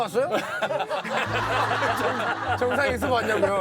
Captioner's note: hehhahaha